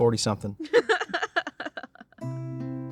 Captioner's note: laughs